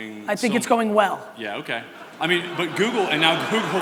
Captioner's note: audience laughter